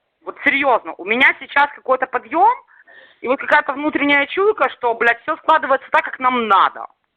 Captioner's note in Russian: говорят по-русски